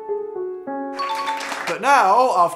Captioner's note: bell sounds, applause